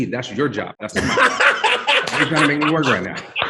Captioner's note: laughs raucously